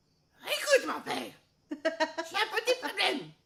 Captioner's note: giggling